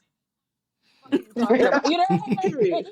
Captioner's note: laughing